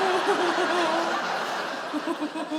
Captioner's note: she giggles